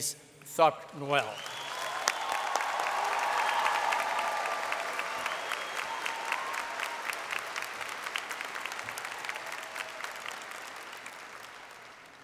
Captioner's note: applause